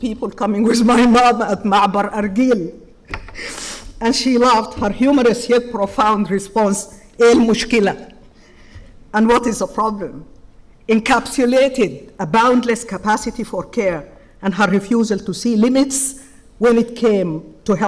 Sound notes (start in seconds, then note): 1.5 speaking foreign language; 7.2 speaking in foreign language